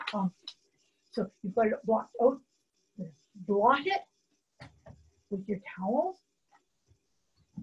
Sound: taps

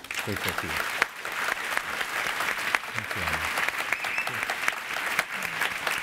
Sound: audience applauding

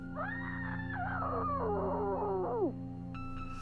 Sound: Jane screaming

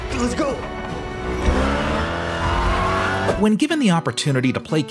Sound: revs engine

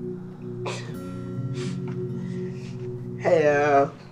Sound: laughs

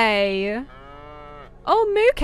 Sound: cow moos

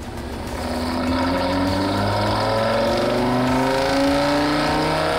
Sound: engine revving

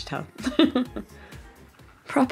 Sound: laughs

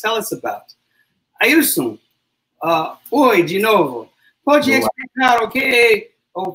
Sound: speaks portuguese

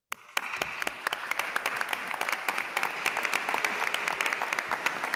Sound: attendees applauding

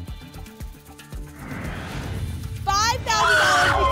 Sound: whoosh

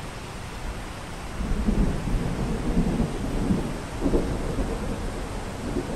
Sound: more rumbling

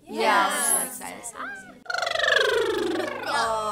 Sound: blowing raspberries

